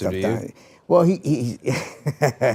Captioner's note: laughs